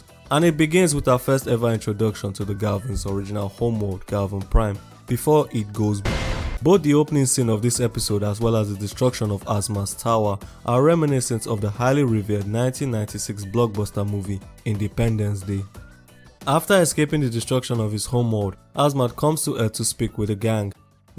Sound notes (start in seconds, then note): 6.0 boom SFX